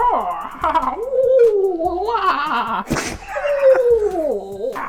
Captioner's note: hysterical laughter